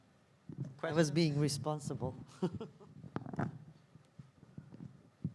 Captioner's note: laughs